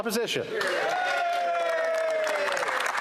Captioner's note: speaking French